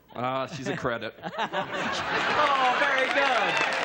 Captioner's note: laughter; applause and cheering